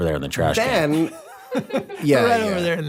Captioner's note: laughs